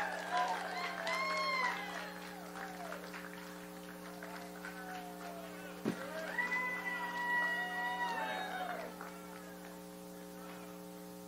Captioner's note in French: applause; applause